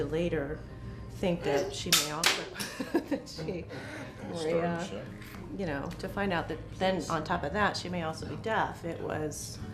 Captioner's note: laughter